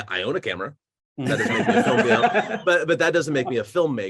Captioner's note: laughing